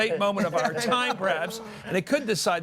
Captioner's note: laughter